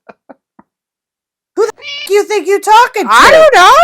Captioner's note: meow